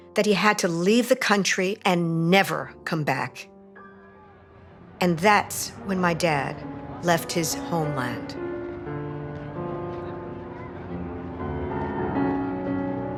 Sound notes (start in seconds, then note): 4.0 people chattering; 8.4 gentle piano music continues